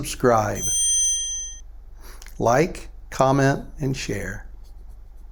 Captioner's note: feedback noise